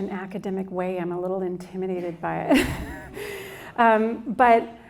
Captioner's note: laughs